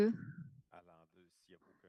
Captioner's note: speaking French